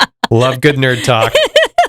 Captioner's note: laughing